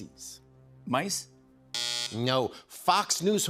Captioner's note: buzzer